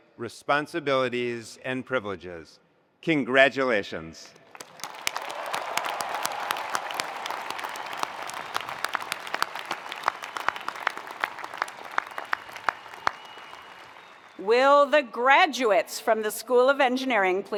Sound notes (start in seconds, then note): 4.5 attendees applauding; 4.6 attendees cheering